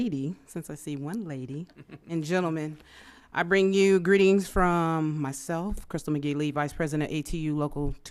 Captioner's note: laughter